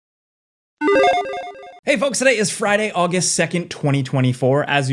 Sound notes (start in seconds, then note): 0.9 8-bit bloop